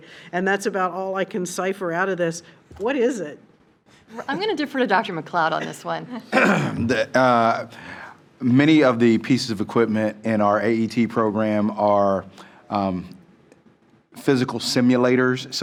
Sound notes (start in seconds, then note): 6.3 clears throat